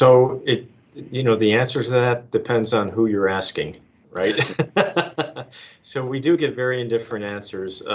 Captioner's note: laughs